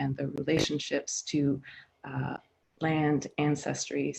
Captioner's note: none